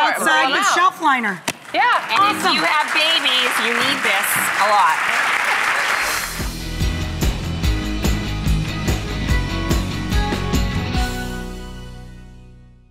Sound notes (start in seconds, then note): 4.0 applause; 6.0 upbeat music